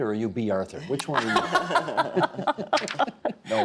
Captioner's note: laughing